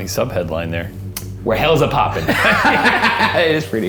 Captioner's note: both laughing